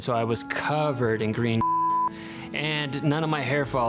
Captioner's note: beeping